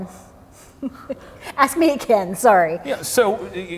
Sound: chuckles

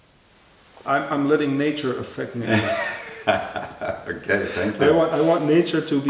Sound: laughing

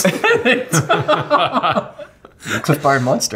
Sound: laughing

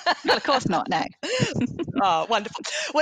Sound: chuckles

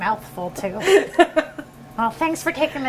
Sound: laughter

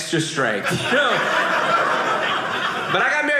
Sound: audience laughing

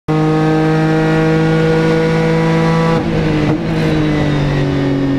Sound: car engine roars throughout entire video

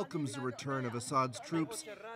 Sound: speaking French

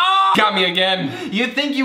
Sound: screams

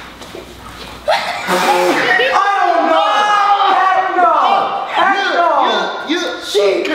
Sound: screams

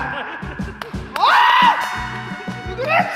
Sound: screaming lol

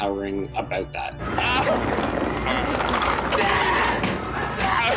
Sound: yelling

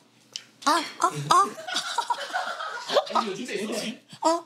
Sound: groaning

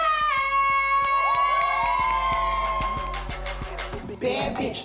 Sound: cheers and applause

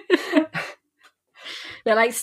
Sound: laughing; laughs

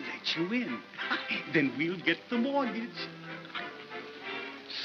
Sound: laughter

